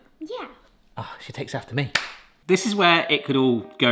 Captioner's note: high-five slaps